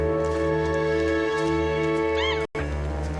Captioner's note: bird cawing